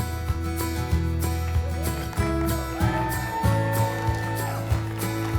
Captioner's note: cheering